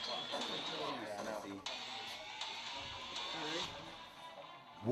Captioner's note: machines whirring